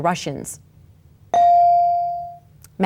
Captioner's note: bell dings